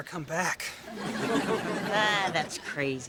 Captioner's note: audience laughter